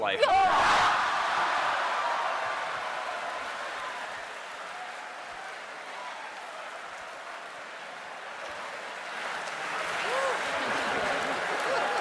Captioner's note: cheering and laughter